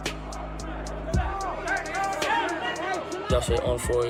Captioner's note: shouting